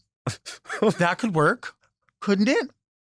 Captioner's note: laughs